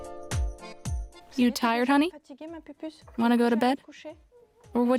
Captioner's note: French